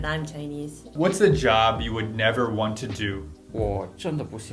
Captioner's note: 중국어로